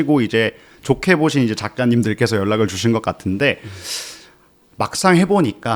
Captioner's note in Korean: 콧방귀